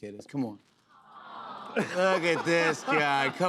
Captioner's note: audience "Awws"